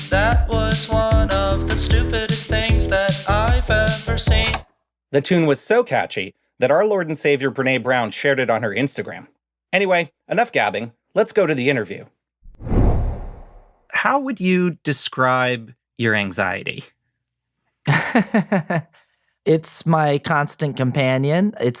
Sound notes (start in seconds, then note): 12.4 air whooshes; 17.9 laughs